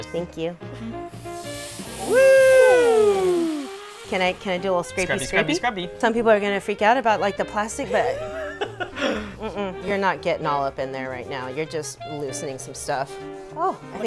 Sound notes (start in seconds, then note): 1.1 pan sizzles